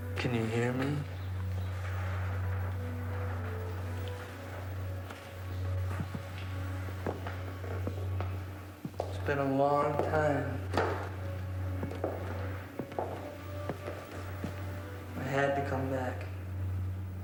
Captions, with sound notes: Can you hear me? (eerie electronic music) It's been a long time. (footsteps clacking) I had to come back.